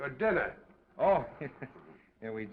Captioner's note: chuckles